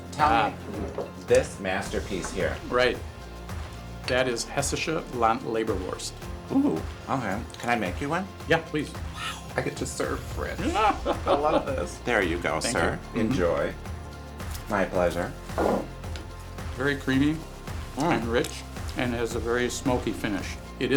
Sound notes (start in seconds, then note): 10.6 laughter